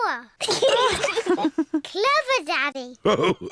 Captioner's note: giggles; all laugh